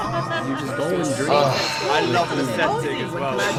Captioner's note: sigh